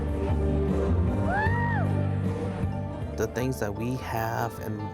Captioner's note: cheering